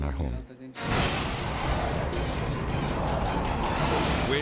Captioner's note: intense music; wind whooshing